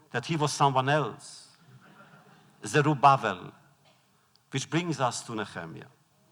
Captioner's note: laughter